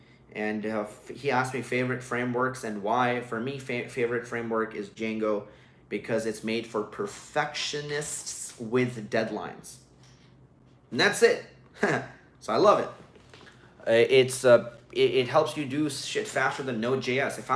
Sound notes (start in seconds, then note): 11.8 laughs